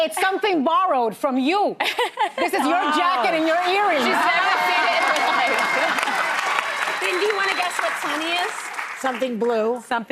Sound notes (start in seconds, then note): 7.0 audience applauding